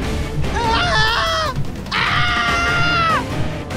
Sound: shouting

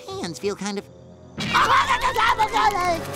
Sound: screaming

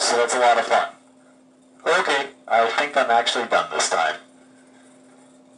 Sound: Darth Vader Breathing

